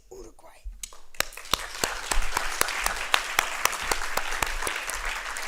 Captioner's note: applause